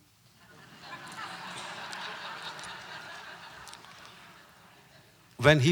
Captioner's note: audience laughter